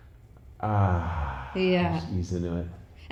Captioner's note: loud sigh